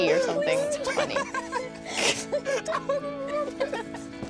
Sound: laughing

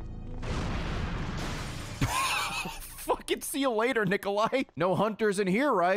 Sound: laughs

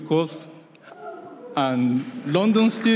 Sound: audience whoops

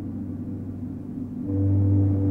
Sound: distant foghorn blowing; wind blows gently; distant foghorn blowing

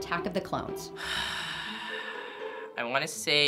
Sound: sighing

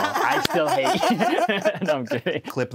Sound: cackling

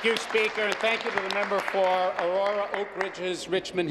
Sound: applause

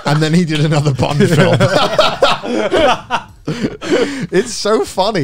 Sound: everyone laughs

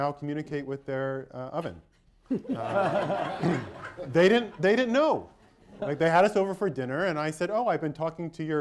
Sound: laughter

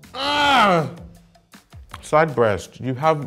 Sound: groans

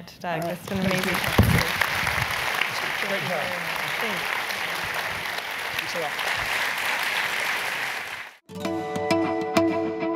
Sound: applause

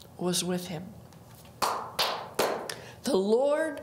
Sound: claps

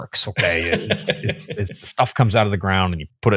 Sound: laughing

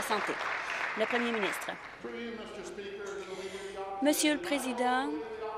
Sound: applause

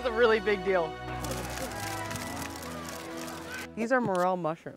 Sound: camera shutters clicking

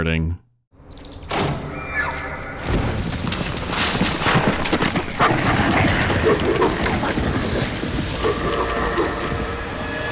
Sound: commotion in the underbrush, elk screeching, wolves growling

